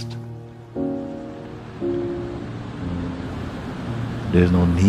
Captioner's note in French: Bruit de vagues et musique ensemble